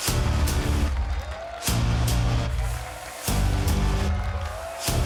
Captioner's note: crowd cheers; heroic music